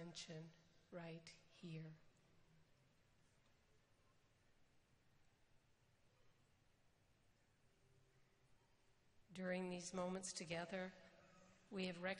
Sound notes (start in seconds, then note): 3.8 silence